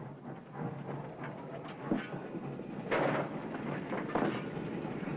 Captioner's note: train chugging